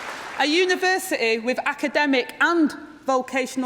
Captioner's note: applause